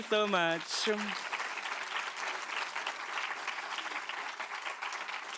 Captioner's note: applause